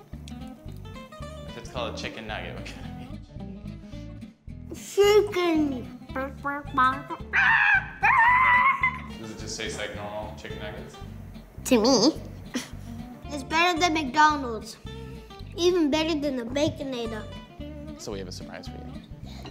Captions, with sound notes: - Chicken. (chicken gobble noise) (chicken squawking noise) - To me. - It's better than McDonald's. Even better than the Baconator.